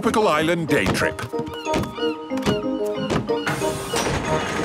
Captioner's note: gulls squawking